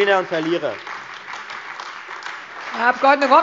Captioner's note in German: Beifall Freie Demokraten und AfD